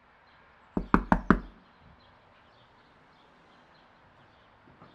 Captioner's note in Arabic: طرق الباب